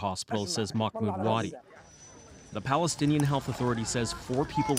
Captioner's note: speaking alternate language